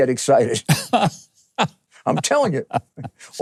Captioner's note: Mike laughing